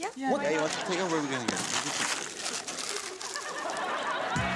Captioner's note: audience laughs; paper crumpling